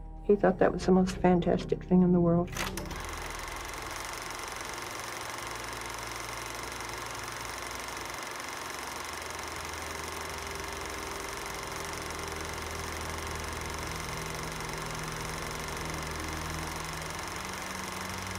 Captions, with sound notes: He thought that was the most fantastic thing in the world. (projector clicking) (dark music)